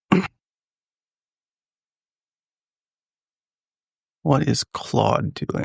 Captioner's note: silence